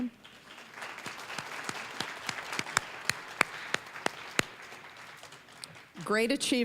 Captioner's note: applause